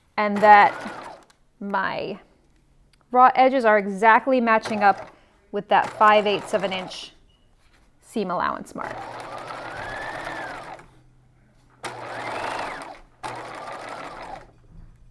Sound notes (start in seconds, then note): 9.7 machine whirring